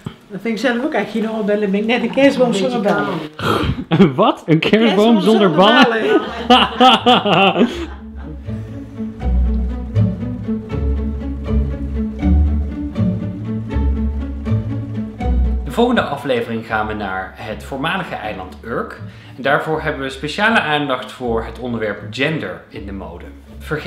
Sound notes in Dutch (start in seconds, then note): 6.9 lachen